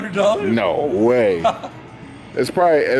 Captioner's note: laughing